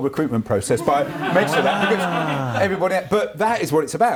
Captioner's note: laughs